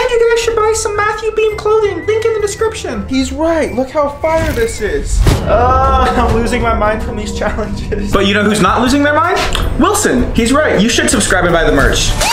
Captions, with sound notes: And you really should buy some Matthew Beem clothing, link in the description. He's right, look how fire this is. (sighs) I'm losing my mind from these challenges. But you know who's not losing their mind? Wilson, he's right, you should subscribe and buy the merch.